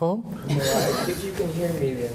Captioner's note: all laughing